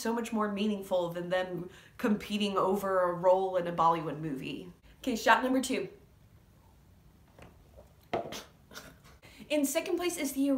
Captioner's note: noises of disgust